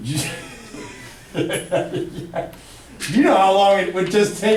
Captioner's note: laughing